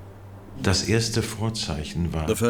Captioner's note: speaking German